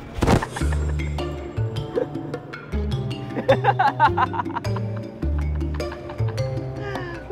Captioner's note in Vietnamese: Tiếng cười